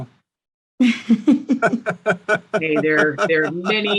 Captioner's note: laughing